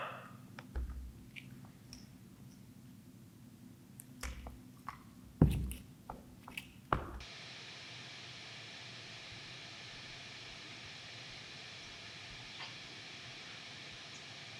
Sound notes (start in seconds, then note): 0.2 Jacob exhales; 6.8 static hissing